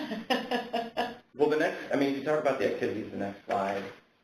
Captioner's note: laughter